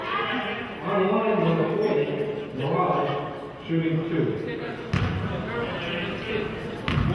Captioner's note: murmurs